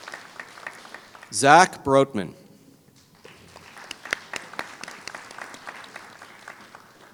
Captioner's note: applause